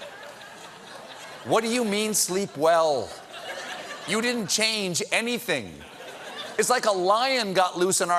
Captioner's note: laughter